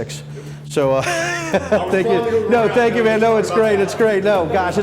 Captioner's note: laughing